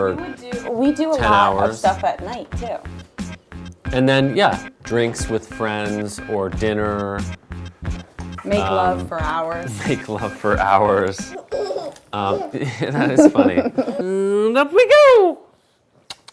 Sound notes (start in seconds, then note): 11.2 laughing; 12.1 laughs; 16.0 kissing sounds